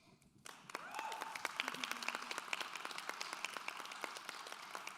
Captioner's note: clapping; cheering